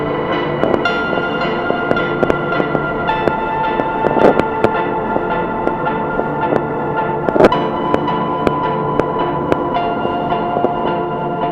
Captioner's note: loud, heavy and prolonged crackling